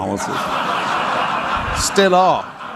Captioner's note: audience laughing